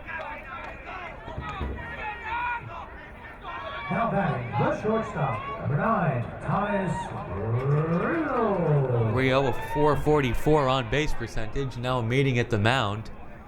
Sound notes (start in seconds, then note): 0.9 crowd muttering